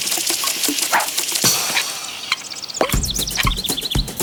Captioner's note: whooshing sound